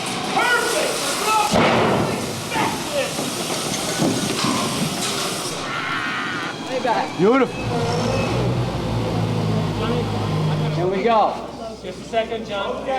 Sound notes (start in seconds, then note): 6.6 motors and voices